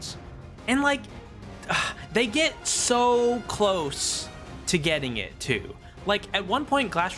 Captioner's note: gasps